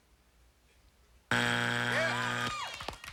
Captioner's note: buzzer